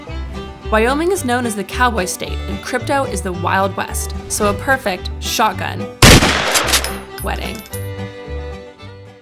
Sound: shotgun

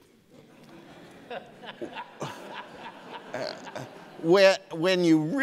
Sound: audience laughing

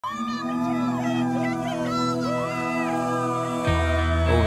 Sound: people cheering

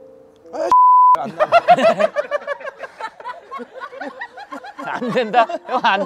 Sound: laughing

